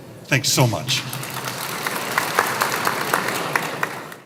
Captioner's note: applause